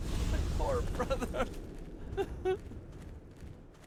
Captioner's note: mournful sobbing